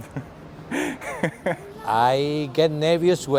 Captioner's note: giggle